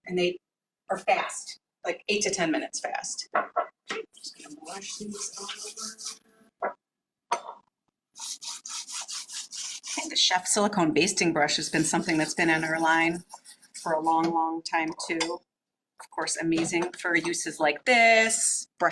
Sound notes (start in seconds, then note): 8.1 brush scraping